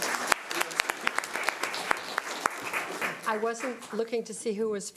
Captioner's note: audience applause